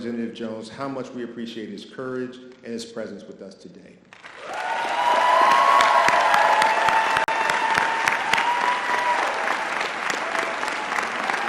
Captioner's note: audience applause